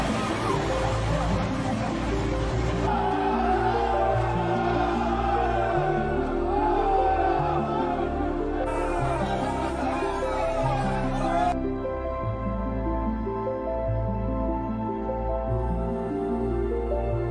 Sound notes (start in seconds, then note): 2.8 soldiers shouting; 12.0 bright ethereal music